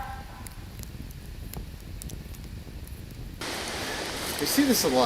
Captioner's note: fire softly crackling; video static whooshes